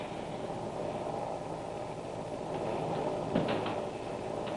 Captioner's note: whirring